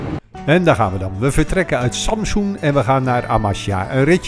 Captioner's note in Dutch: Voiceover